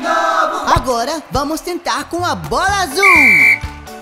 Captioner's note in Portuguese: Som de apito